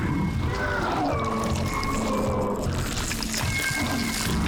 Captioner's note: screeching and growling; moaning; crackling